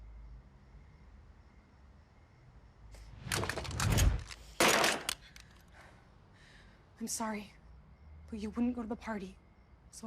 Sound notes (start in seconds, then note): 4.7 gunshot firing